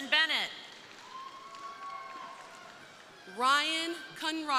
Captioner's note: crowd cheering